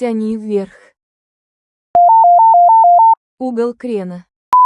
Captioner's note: WARING bank angle beep